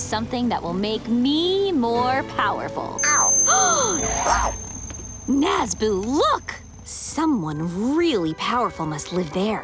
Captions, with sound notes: that will make me more powerful. -Oh. -[gasps] -Whoa. -Nazboo, look! Someone really powerful must live there.